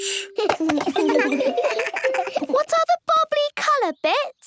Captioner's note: giggles